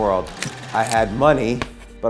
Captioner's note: camera click and advances